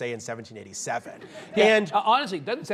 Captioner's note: audience laughs